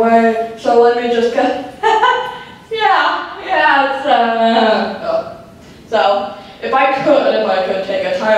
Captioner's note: laughs